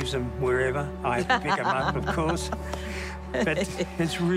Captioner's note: laughs